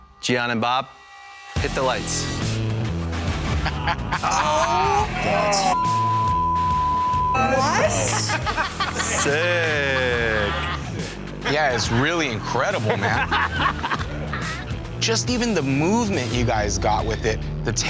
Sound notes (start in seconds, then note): 2.5 dramatic music; 4.1 people exclaiming in surprise; 13.2 laughing